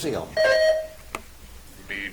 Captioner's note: buzzer chimes